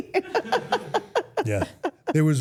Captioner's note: everyone laughs